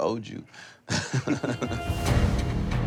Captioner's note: chuckles